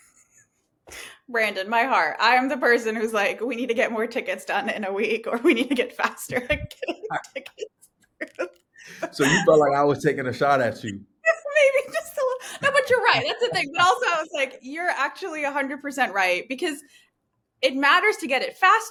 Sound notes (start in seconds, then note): 9.0 laughter